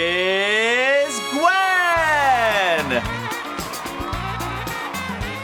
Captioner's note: crowd cheering